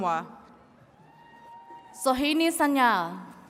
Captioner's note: attendees cheering